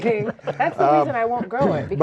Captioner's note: laughing